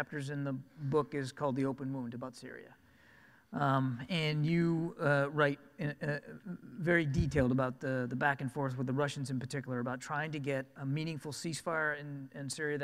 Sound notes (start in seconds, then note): none